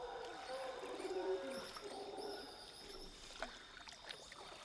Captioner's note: water sloshing